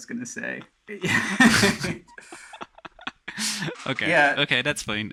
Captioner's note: laughs